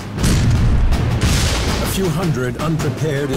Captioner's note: artillery booming